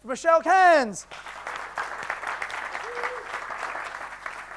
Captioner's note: audience claps